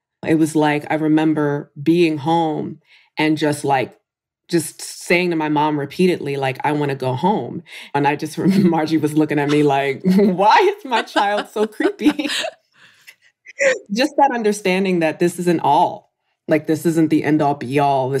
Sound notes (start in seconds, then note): 10.8 laughter